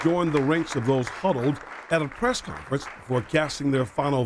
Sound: applause

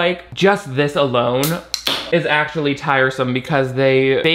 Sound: can pops

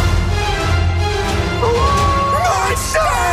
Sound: howl

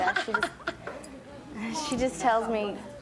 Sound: laughing

